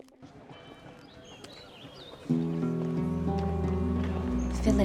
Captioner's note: birds singing